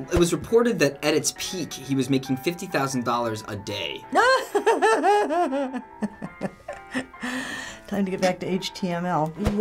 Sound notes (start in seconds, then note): 4.2 laughs in disbelief